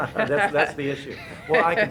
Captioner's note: laughing